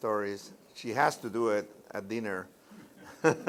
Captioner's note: laughter